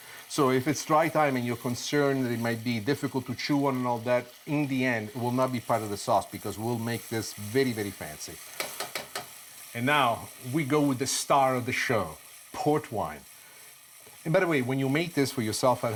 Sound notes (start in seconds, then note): 8.6 tapping spoon; 8.8 sizzling